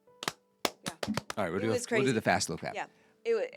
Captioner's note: clapping